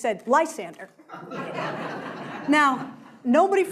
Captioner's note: crowd laughing